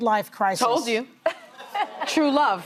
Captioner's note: laughing